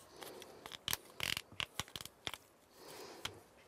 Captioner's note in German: Konzentriertes Atmen, leises Knacken